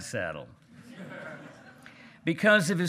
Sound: hearty laughing

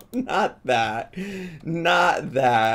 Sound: laughs

